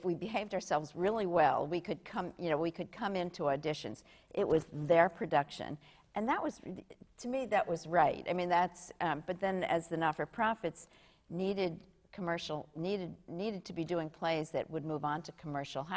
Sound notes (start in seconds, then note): none